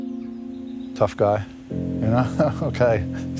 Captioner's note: laughs